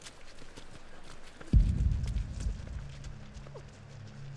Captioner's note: footsteps